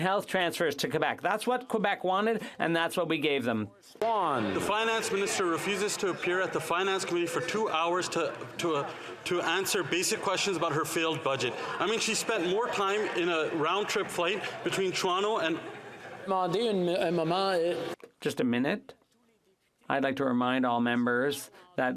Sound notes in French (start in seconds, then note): 4.5 applaudissements; 5.8 voix de l'interprète